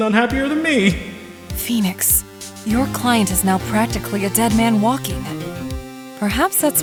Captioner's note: whispering